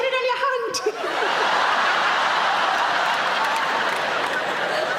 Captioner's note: audience laughing